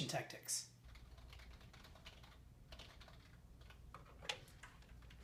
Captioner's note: typing vigorously